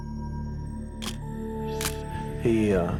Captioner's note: camera shutter click